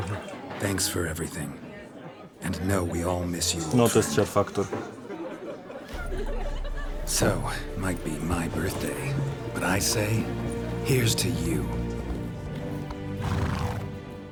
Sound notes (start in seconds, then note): 0.3 in English; 3.7 in Polish; 7.0 in English